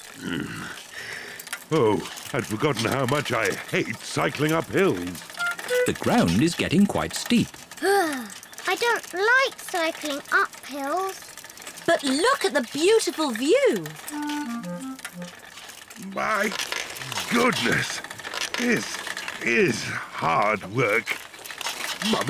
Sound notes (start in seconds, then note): 0.1 grunts; 7.8 groans